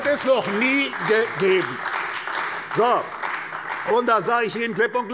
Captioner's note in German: Beifall bei der CDU und dem BÜNDNIS 90/DIE GRÜNEN